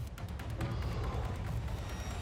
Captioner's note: exhales